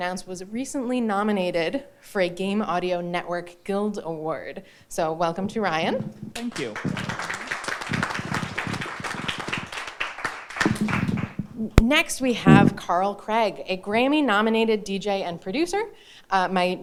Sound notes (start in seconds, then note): 6.3 audience applauding